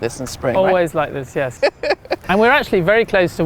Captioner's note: laughing